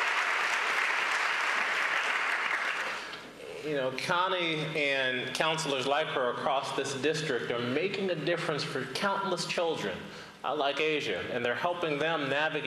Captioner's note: applause